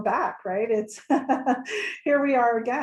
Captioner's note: laughs